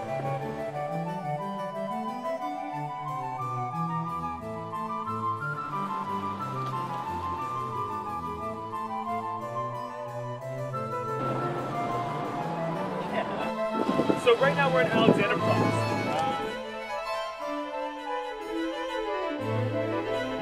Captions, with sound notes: (classical music) (traffic whirs) (classical music) (traffic rumbles) - So right now we're at Alexanderplatz. (classical music)